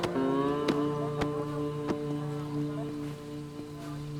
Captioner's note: radio chatter